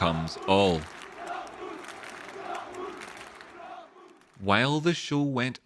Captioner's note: Applause Monaco fans chanting "Dortmund"